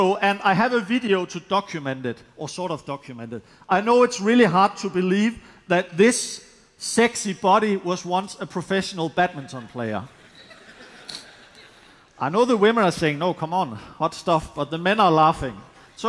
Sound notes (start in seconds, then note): 10.0 laughter